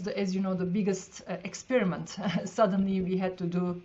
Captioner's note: chuckles